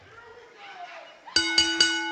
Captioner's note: bell ringing